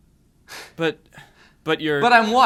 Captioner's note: voiceover